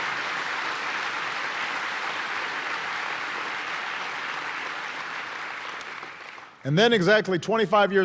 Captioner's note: applause